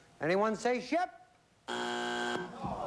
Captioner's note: buzzer